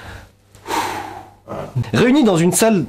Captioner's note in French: 2ème Long soupir